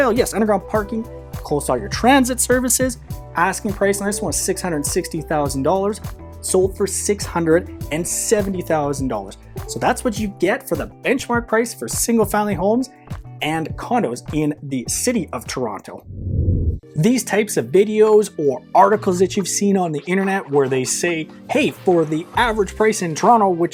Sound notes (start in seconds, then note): 16.0 screen whooshing